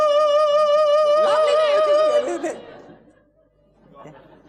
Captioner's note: singing a long note; stutters